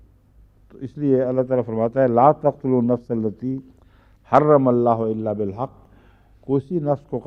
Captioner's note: Arabic